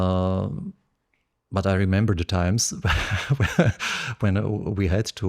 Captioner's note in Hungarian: nevetés